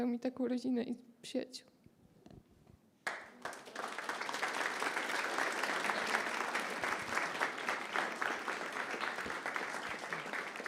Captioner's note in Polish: Aplauz